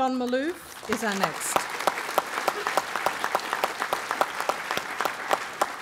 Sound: applause

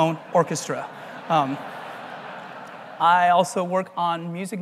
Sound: laugh

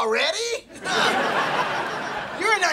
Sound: laughing

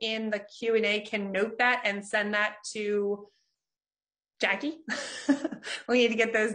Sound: laughs

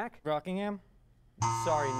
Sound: error buzzer

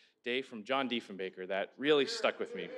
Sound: speaking french

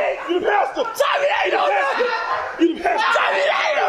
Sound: indistinct chatter

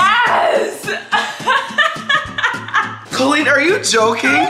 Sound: Colleen laughs

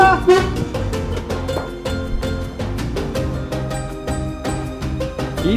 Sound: table screeches

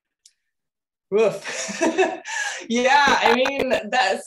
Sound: laughing

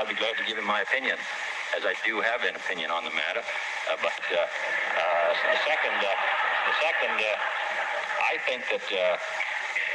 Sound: laughter

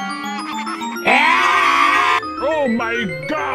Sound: wario screaming

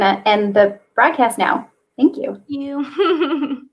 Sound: laughs

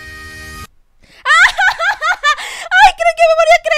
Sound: laughs

